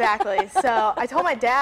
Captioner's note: laughs